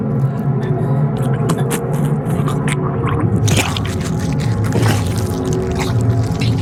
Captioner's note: retching, wet noises